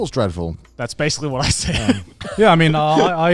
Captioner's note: laughing